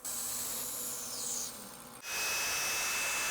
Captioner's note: bandsaw buzzing; high-speed sander grinding